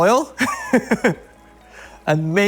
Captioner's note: laughs